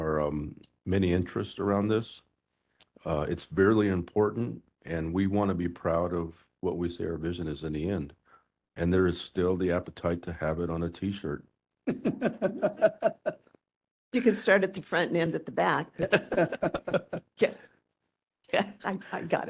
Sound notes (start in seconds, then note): 11.9 laughing; 15.9 laughing